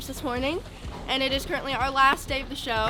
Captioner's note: hand smacking